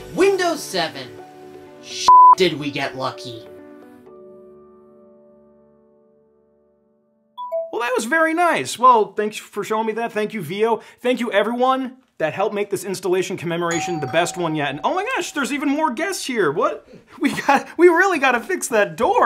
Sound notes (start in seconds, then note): 2.1 beeps; 7.4 computer beeps; 13.7 doorbell rings